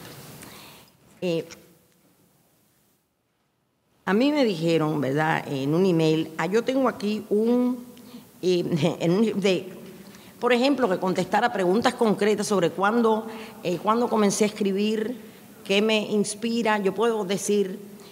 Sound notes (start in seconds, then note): 1.4 speaking in a foreign language